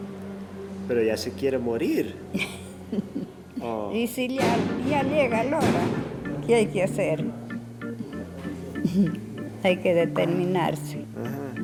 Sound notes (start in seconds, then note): 4.3 speaking foreign language; 5.6 chill music